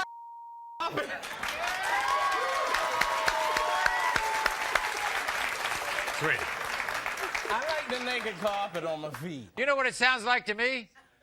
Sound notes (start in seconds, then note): 0.9 audience cheering and applauding